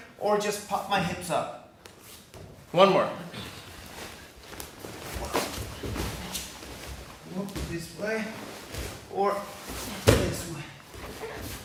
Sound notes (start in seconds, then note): 4.4 mat thudding